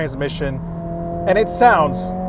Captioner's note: engine revving